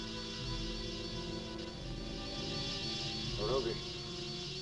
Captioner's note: muffled wasps buzzing